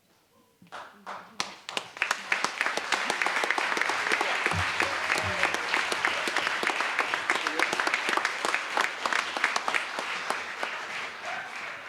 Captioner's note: applause